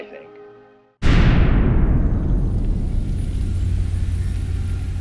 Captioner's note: explosion bangs